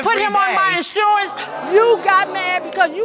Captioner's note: audience groaning